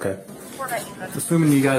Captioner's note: radio chatter